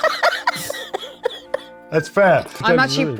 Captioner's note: cast laughs